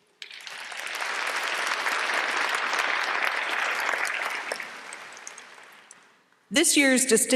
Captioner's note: applause